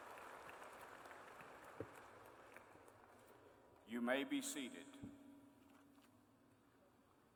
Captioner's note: applause